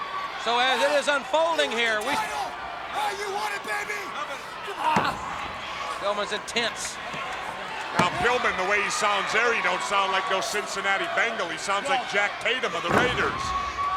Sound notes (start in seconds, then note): 4.7 wrestlers grunting; 4.8 body thudding; 7.6 hands thudding